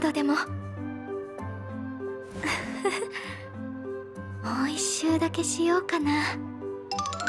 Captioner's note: chuckle